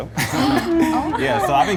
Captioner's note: laughter